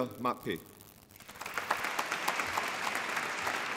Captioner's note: applause